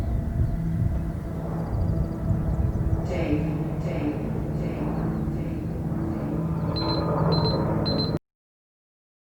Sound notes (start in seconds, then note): 6.8 beeping